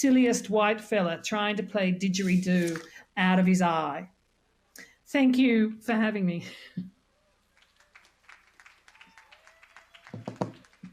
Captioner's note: applause